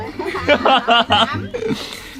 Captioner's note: laughing